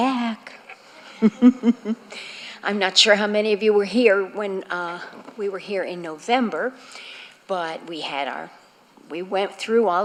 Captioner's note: laughter